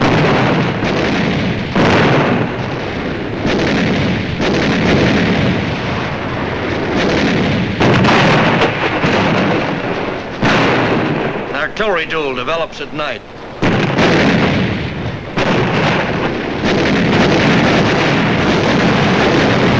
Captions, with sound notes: (explosion booming) Artillery duel develops at night. (guns blasting) (explosions booming)